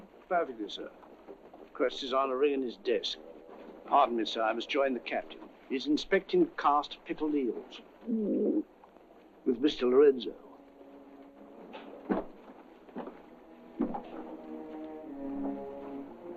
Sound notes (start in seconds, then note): 8.1 gagging; 12.8 sinister orchestral music